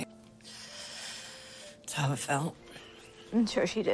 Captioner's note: sigh